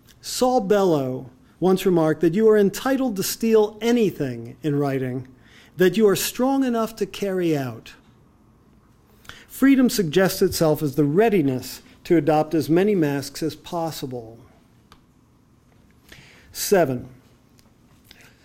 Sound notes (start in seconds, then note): none